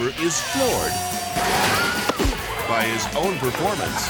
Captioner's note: table cracks; person thuds